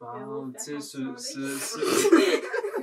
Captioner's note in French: rires